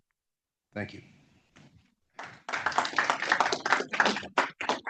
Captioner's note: audience applauds